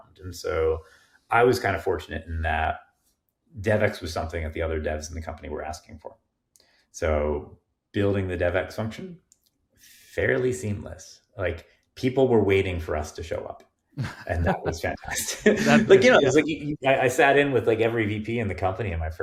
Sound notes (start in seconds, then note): 14.0 chuckling